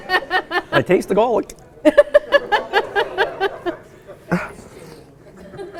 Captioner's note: laughing